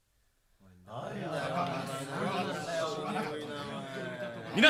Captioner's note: SFX: crowd talking